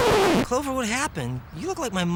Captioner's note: record scratch